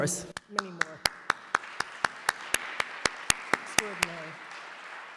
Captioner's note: audience applauds